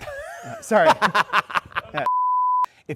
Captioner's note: laughter